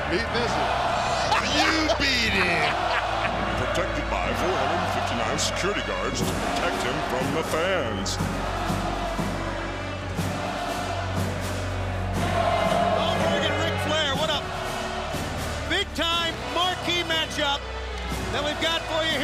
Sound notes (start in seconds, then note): 9.0 crowd cheering